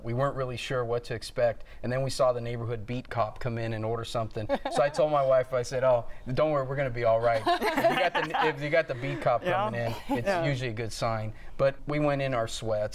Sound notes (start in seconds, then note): 7.3 laughter